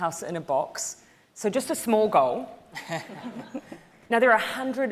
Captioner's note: audience laughing